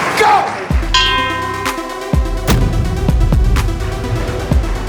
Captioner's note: bell ringing; intense music